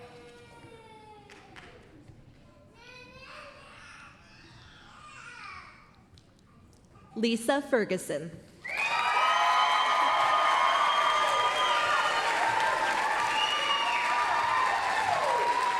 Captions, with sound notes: Liisa Ferguson. [APPLAUSE, CHEERING]